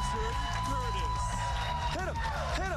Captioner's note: cheers and applause